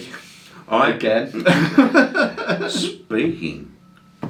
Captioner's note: laughs